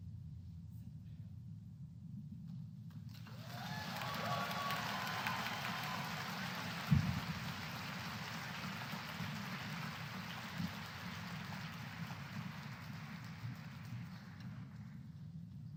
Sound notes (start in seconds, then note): 3.1 applause